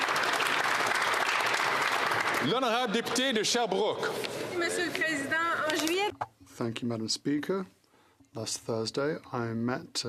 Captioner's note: some Applause